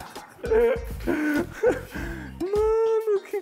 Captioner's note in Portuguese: risadas